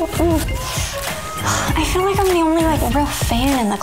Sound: sighs

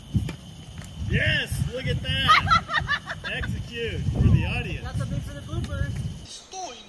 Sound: laughing

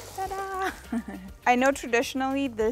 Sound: laughs

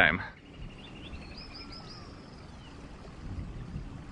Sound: birds chirping

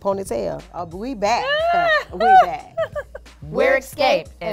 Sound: laughs

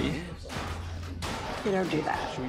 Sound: man shouting

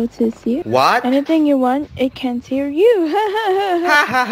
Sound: laughing

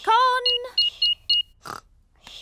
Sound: beeping

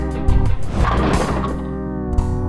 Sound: groovy music; bowling pins clattering

